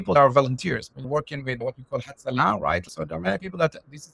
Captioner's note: Hebrew